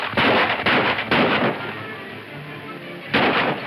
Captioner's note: gunshots